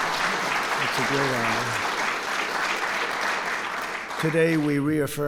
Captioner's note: applause